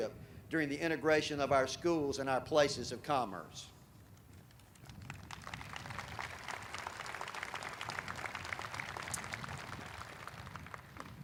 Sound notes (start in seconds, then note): 4.8 audience applauding